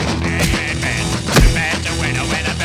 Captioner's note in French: bam